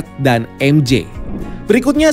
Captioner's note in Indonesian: suara transisi